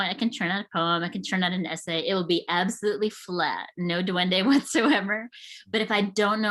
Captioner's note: chuckles